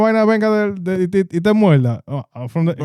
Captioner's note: speaking In Foreign Language